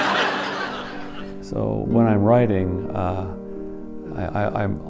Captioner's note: laughter